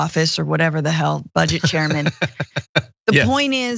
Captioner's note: laugh